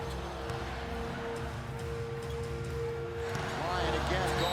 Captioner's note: crowd chanting